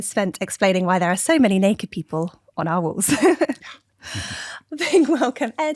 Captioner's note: laughter